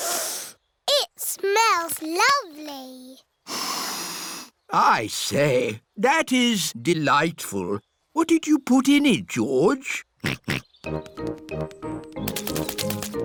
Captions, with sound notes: (SNIFFS) It smells lovely. (SNIFFS) I say. That is delightful. -What did you put in it, George? -(SNORTS)